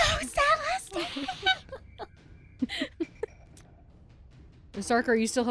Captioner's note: laughter